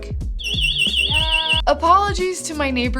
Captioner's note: Abode siren wailing